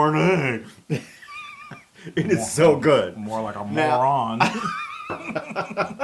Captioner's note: laugh